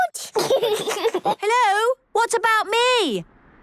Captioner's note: giggles